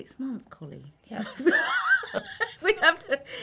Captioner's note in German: lachen